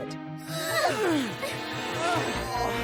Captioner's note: children grunting